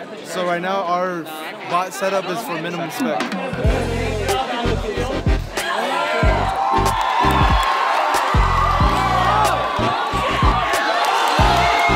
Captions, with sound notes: So right now, our bot setup is for minimum spec. (crowd cheering loudly) - Come on, come on! [Crowd] Ahhhh!